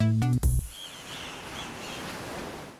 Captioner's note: birds chirping; waves crashing